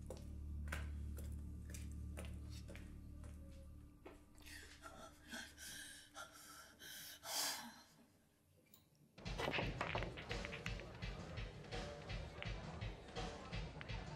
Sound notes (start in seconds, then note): 5.4 crying; 9.4 balls clinking; 11.2 rock music